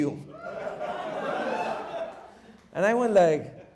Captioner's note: audience laughs